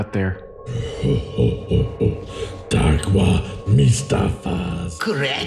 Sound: laughs

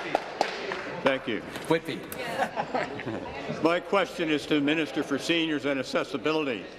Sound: applause

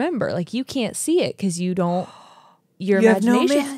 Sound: gasps

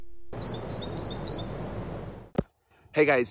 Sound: birds chirping

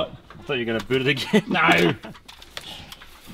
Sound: laughs

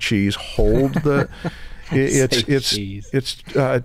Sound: chuckle

